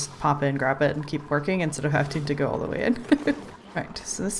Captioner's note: laughs